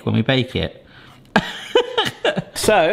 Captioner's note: laughing